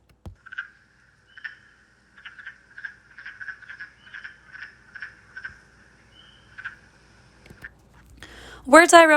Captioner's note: wood frog vocalization